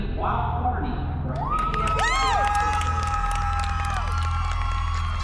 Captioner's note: cheers and applause